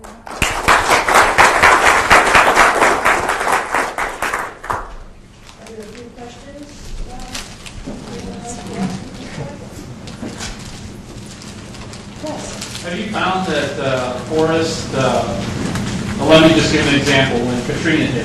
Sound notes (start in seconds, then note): 0.0 audience clapping; 7.8 people murmuring